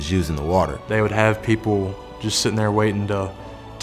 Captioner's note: voiceover